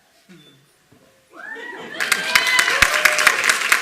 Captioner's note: applause